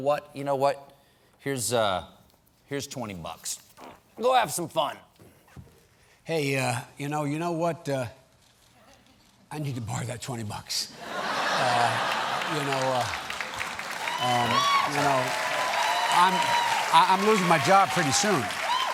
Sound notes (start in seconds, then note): 11.0 laughter; 11.3 applause